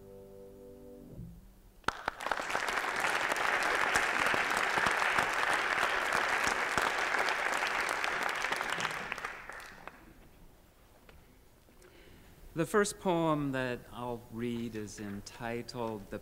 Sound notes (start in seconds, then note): 1.8 applause